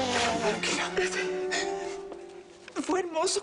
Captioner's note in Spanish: Ruido al limpiarse la nariz